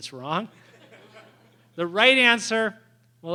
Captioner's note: laughter